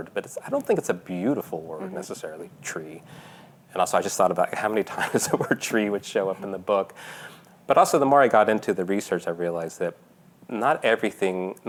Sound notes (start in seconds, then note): 7.2 laughing